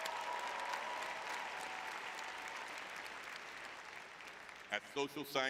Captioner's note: audience cheering